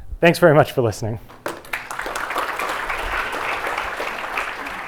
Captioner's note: applause